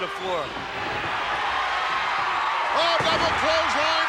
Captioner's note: audience cheering